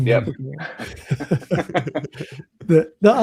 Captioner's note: laughter